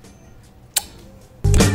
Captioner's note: kissing sound